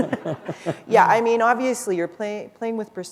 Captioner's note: laughter